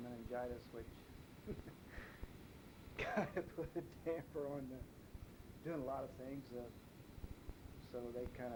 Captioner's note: chuckles